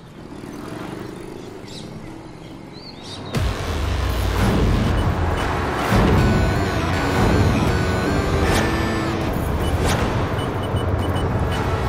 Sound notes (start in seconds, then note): 4.4 traffic noise; 8.0 dramatic music